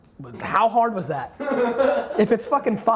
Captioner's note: laughs